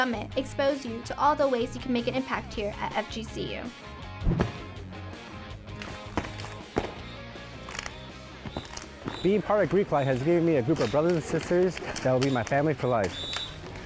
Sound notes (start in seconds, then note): 4.3 stomping, clapping and whistle